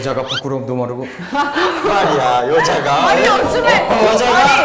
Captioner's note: all laughing